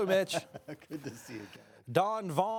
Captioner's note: laughs